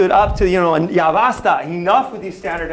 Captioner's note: non-english speech